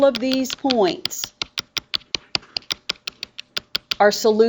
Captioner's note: mouse clicks multiple times